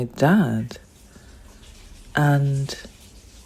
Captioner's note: water sound